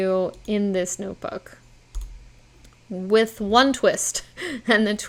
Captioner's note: chuckles